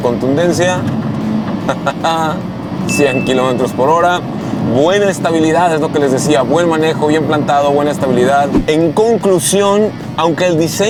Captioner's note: laughter